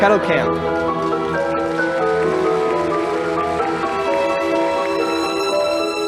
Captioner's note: audience applauding